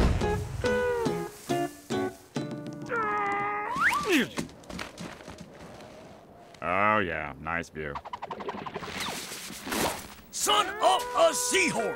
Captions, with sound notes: [grunting] Oh, yeah, nice view. Son of a seahorse.